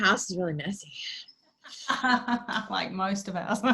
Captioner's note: laughs